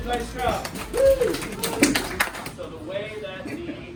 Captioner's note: clapping